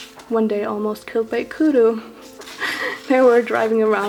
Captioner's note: laughs